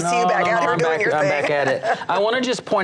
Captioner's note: laughs